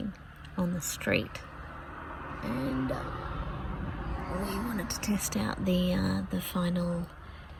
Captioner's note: car goes past